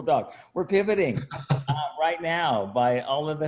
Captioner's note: man laughs